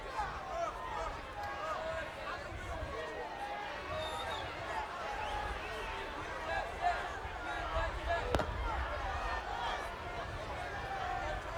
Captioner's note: applause